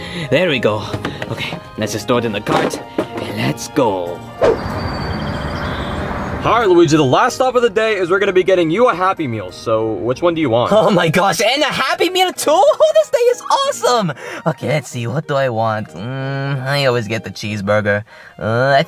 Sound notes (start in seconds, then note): 4.4 air whooshing